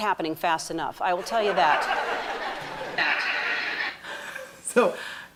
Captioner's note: people laughing